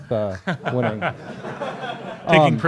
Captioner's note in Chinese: 课堂大笑